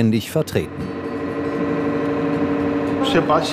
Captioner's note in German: Lautes Surren